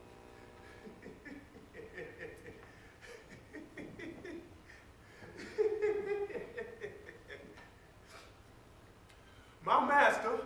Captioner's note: laughing